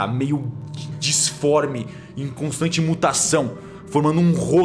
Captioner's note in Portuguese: none